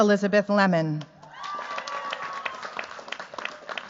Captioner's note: cheers, applause